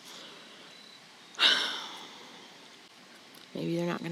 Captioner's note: sighs